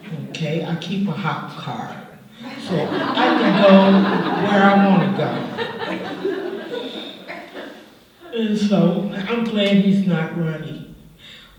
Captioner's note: laughter